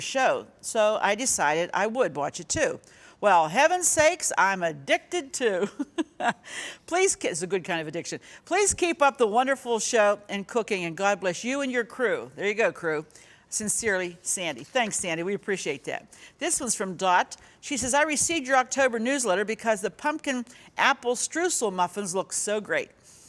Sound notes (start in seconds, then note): 5.5 laughs